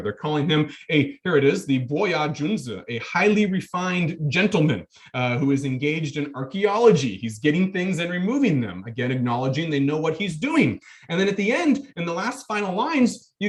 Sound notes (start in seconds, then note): 1.8 speaking in foreign language